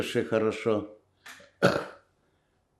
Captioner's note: coughing